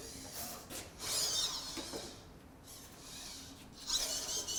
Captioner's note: robots whirring